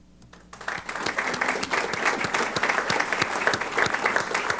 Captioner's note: applause